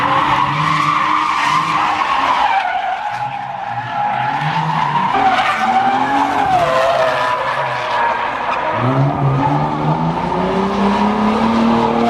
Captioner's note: tires screeching